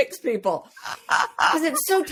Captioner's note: continues laughing